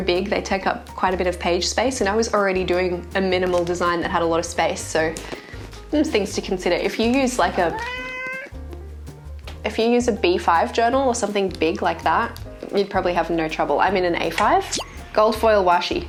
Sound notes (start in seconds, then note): 7.6 meow!